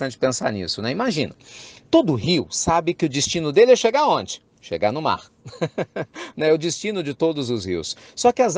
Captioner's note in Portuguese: risos